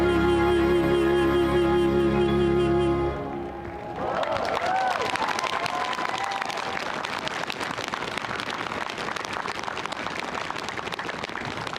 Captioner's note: cheering; applause